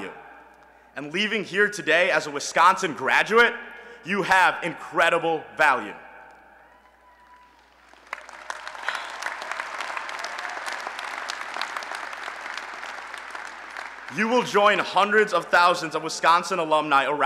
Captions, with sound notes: And leaving here today as a Wisconsin graduate, you have incredible value. [ Applause ] You will join hundreds of thousands of Wisconsin alumni